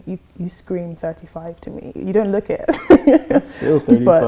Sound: laughs

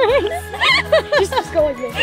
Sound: laughs

